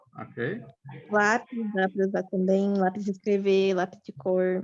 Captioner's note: non-english speech